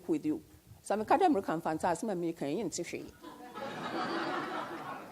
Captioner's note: speaks foreign language; audience laughs